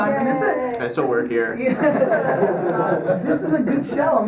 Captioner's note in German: Lacht